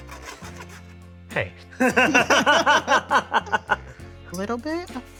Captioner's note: laughs